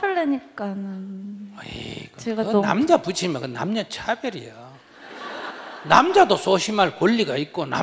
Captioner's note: audience Laughter